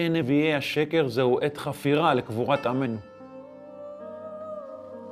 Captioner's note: speaking in Hebrew